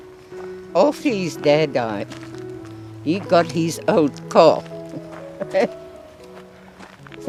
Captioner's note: laughs